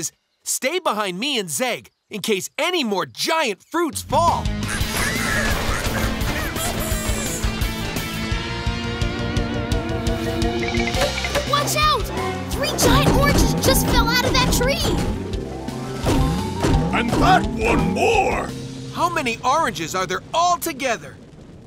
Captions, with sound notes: Stay behind me and Zeg in case any more giant fruits fall. [babies squeaking and laughing] Watch out! Three giant oranges just fell out of that tree. And that one more! How many oranges are there altogether?